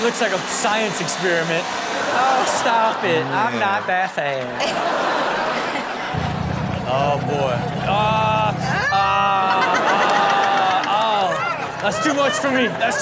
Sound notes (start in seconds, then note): 4.4 laughing; 9.2 everyone laughs